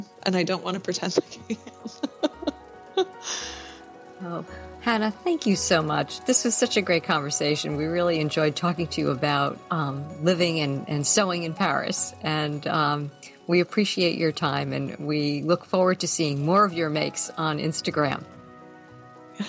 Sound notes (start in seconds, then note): 1.3 laughter